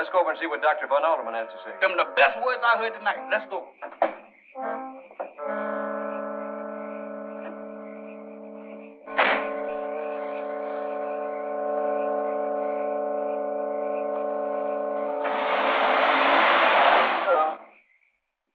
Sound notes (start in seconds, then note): 15.4 engine revving